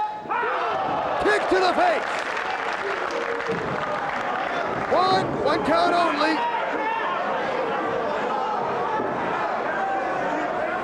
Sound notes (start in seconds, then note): 1.1 spectators applauding